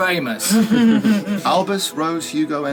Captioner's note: readers laughing